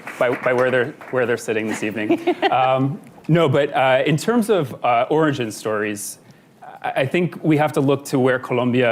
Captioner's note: applause; laughter